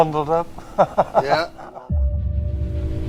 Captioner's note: chuckling; intensifying eerie music